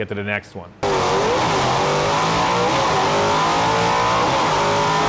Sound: engine roaring

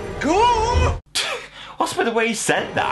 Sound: chuckles

